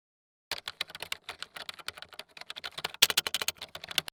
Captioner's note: keyboard typing